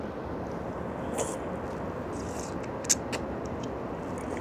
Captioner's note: slurping